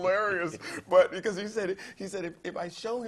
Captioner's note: laugh